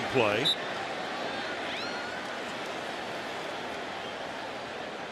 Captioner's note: whistle